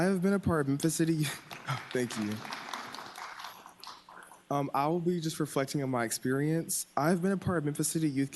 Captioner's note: applause